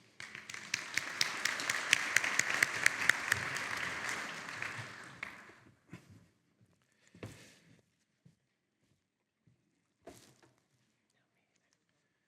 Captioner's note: audience clapping